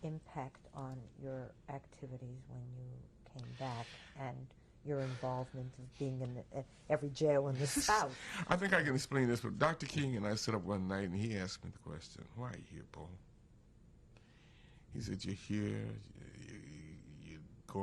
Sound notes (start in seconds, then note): 7.6 laughs